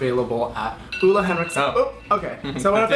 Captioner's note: alarm rings